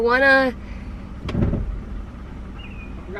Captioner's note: grinding sound